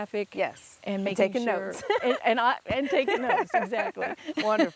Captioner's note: laughs